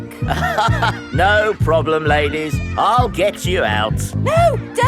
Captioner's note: chuckles